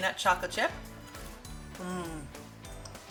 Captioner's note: cookie crunching